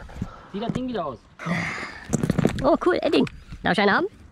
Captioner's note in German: schnaufen